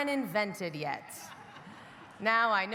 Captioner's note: audience laughing